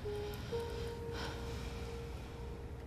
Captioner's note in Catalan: sospira